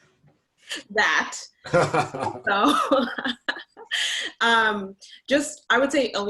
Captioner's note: laughing